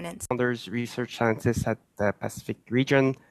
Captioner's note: speaking French